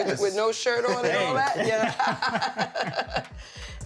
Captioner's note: laughter